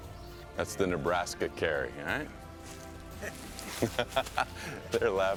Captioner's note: laughing